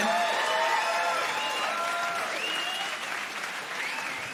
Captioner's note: crowd cheering